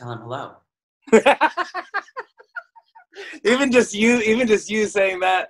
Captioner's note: laughs